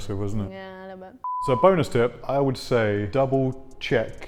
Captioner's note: beep